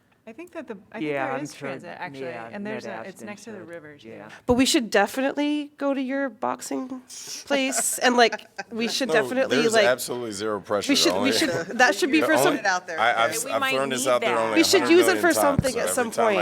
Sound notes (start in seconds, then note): 7.5 laughter